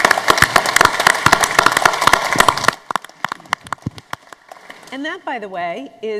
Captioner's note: applause